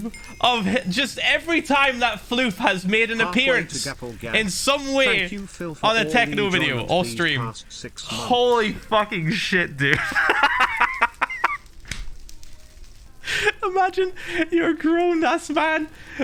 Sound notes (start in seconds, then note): 9.7 Phil laughs again